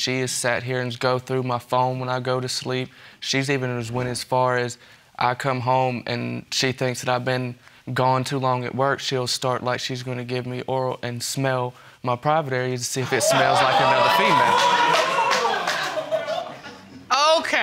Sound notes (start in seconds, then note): 14.9 audience applauding; 16.4 audience laughing